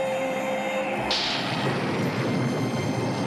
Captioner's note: thunder rumbles